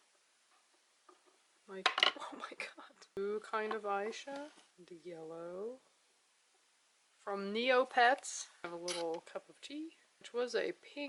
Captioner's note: drops it